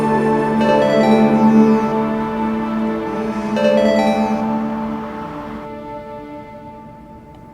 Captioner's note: phone ringing